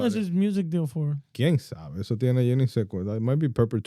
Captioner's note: speaking In Foreign Language